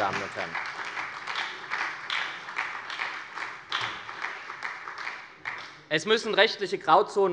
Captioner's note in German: Beifall bei der SPD